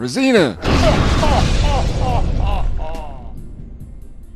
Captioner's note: Jebediah laughs